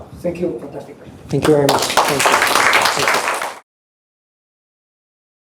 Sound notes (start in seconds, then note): 1.4 applause